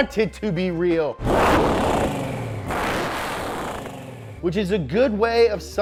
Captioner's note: engine revving